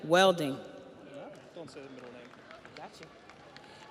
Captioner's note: audience applauds